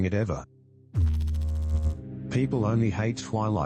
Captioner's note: electrical noise